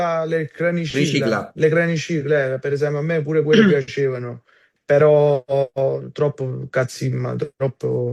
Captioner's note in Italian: schiarire la voce